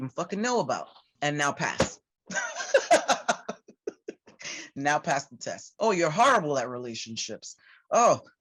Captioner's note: laughter